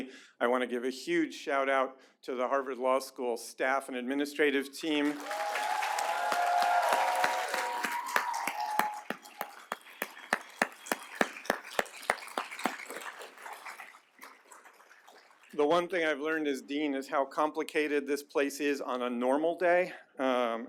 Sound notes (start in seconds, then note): 4.8 applause